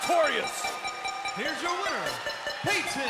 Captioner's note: bell ringing